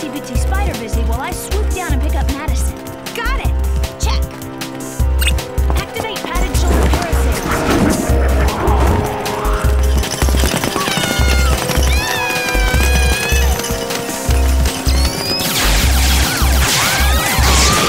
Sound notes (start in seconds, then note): 14.3 screaming